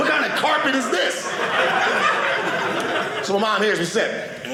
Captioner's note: audience laughing